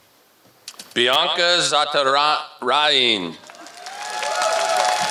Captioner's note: applause